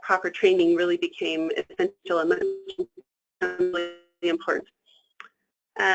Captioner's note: static